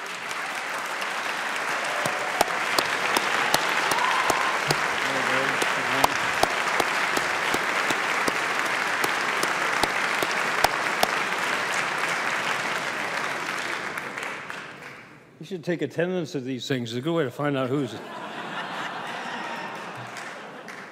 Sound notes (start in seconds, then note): 10.9 applause